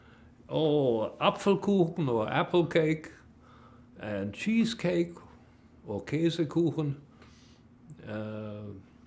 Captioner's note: german